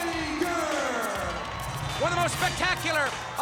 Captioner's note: audience applauds and cheers